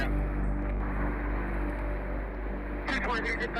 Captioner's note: muffled voices on a radio; muffled voice on radio